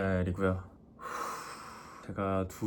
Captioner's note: sigh